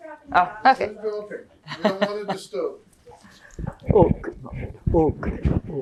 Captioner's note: laughing